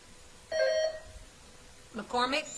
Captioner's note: bell ringing